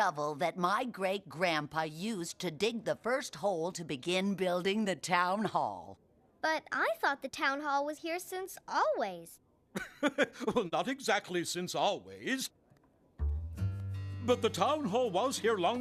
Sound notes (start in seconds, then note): 9.8 male Bear Chuckling